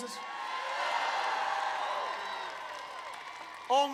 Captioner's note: applause